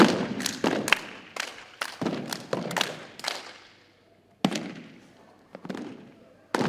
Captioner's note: rhythmic thumping and clapping continues